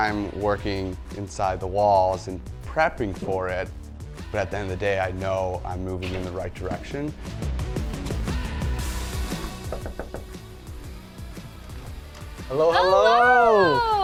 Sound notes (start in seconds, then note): 9.4 knocking